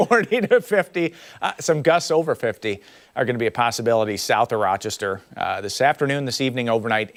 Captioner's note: laughter